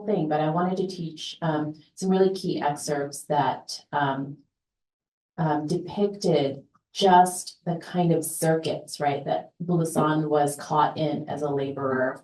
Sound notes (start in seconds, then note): none